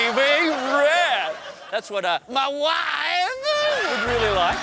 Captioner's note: imitates borat